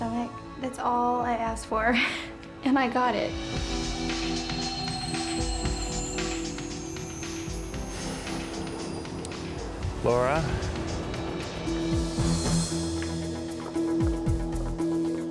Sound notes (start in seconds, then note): 3.4 shimmering tone; 4.4 upbeat music; 12.2 dramatic music